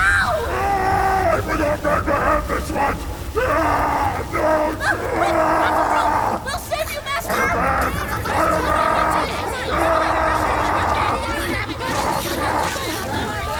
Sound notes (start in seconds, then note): 2.9 Gougenvore screams horribly